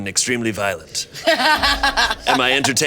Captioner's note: laughing